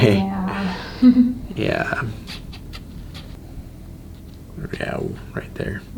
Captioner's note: laughs